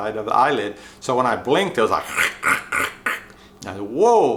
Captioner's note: makes scratching/grinding sound